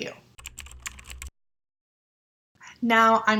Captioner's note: keyboard typing